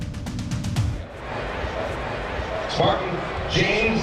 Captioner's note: crowd chattering